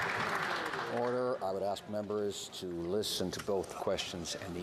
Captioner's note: some Applause